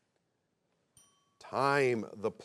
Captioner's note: bell chimes